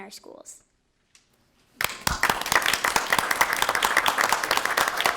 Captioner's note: audience applause